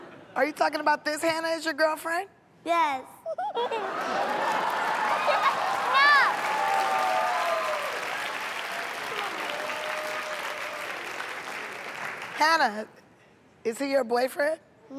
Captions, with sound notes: Are you talking about this Hannah is your girlfriend? Yes. [ Cheering ] No! [ Applause ] Hannah, is he your boyfriend?